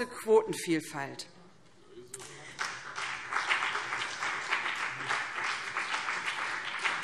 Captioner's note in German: Beifall BÜNDNIS 90/DIE GRÜNEN